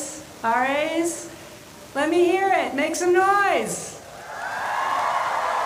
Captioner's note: cheering